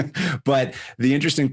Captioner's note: chuckles